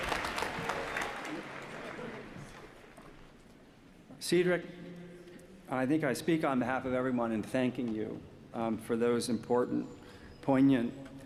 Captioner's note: applause